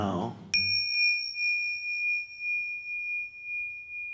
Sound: bell chimes

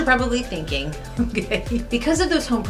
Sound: laugh

